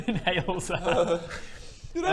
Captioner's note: Baradun quivers